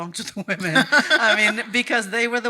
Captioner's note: laughing